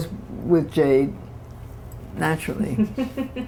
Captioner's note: laughter